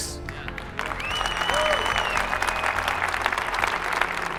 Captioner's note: audience applauds